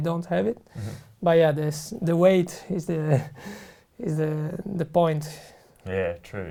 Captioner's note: laughs